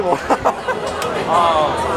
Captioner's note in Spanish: la risa